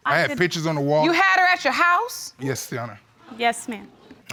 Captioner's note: none